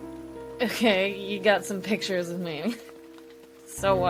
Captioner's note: laughs